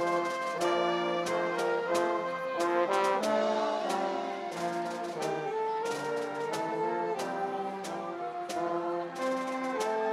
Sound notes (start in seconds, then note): none